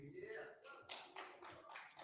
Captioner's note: applause